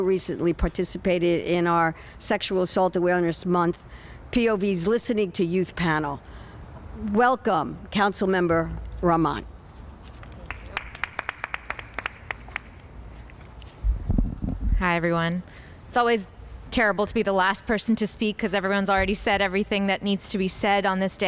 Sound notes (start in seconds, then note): 8.4 applause